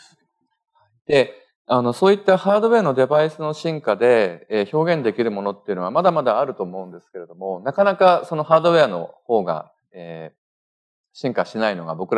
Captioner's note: speaking japanese